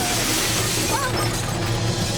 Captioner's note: shrieking